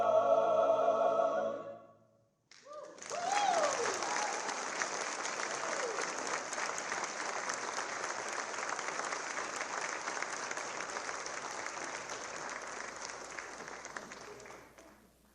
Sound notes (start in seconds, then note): 2.5 applause